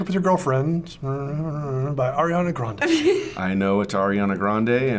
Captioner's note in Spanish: riendo